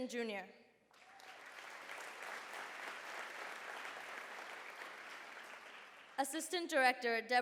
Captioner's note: applause